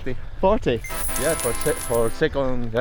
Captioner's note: money clinking; trumpets sounding